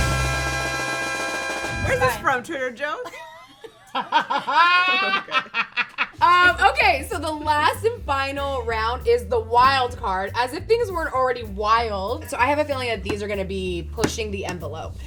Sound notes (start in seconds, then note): 0.0 mariachi music; 3.0 laugh